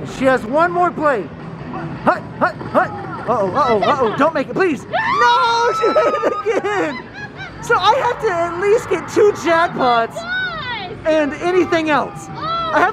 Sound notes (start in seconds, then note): 5.7 laughing